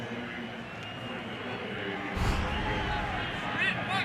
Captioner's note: pa announcement